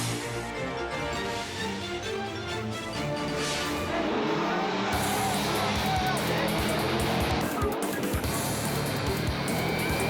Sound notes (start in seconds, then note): 2.0 engines roar; 2.9 air whooshes; 7.4 bold music